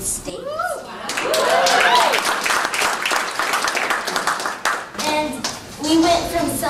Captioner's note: cheers and applause